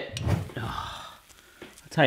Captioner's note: air whooshing